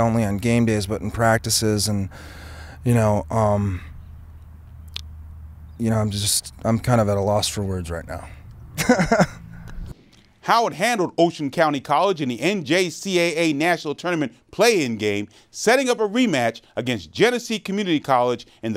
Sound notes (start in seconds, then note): 8.7 laughs